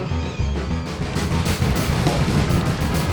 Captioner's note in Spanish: agitación de madera